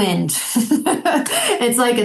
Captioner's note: laughing